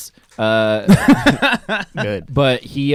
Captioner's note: laughing